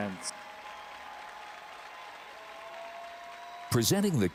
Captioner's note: audience applauding and cheering